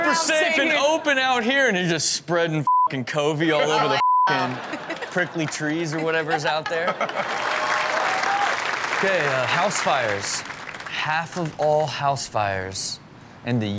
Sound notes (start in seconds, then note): 3.8 beep; 7.0 applause